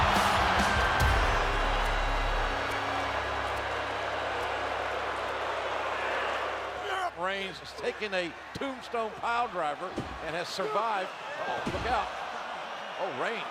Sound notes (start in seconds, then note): 0.1 crowd gasps; 3.2 crowd murmuring